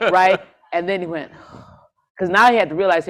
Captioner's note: sighs